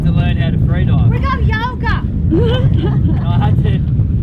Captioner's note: laughing